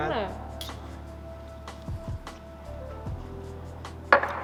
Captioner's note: cheer and chug